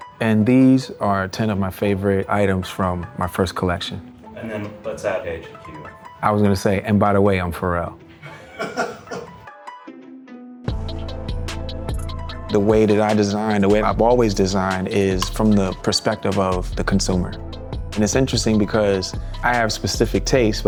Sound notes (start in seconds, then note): 8.2 off-screen laughter; 10.8 upbeat music